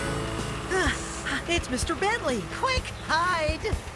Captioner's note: gasps